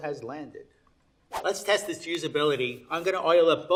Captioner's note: air whooshing